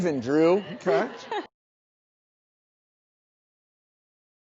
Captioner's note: chuckling